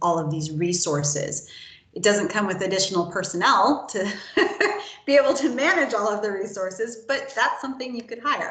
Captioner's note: laughs